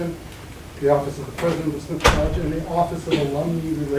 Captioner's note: banging